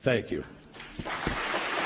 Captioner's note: applause